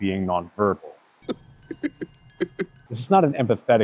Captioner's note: laughing